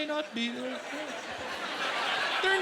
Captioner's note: laughter